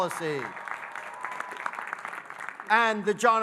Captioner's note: audience cheering and applauding